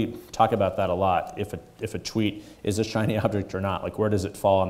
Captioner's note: chuckles